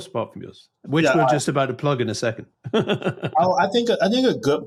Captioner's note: chuckles